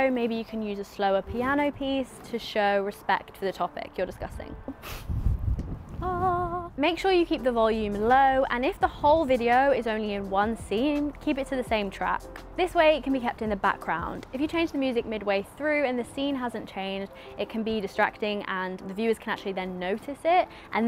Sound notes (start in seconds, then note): 4.8 chuckling; 6.0 humming